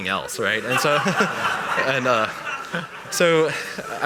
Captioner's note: laughter